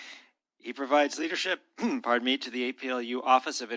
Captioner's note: clears throat